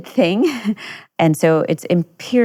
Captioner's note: chuckles